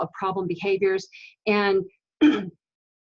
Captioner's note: clearing throat